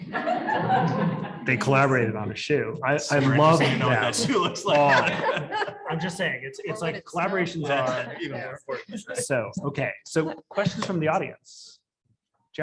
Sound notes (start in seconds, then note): 0.0 audience laughs; 5.2 panel laughing